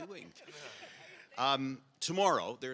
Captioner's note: audience laughs